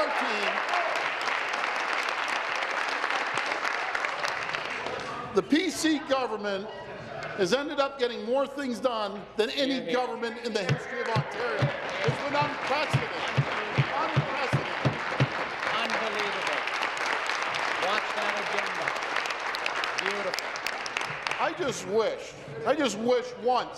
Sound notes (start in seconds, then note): 0.0 applause; 5.1 continued applause; 19.8 applause